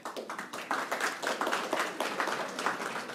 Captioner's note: applause